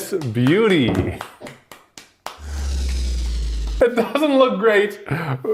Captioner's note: applause